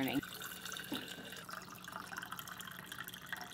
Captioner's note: water burbling